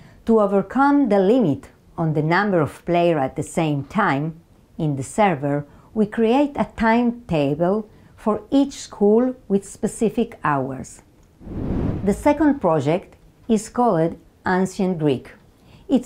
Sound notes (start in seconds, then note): 11.4 slide whooshes